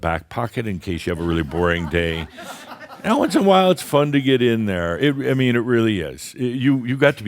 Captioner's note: some chuckles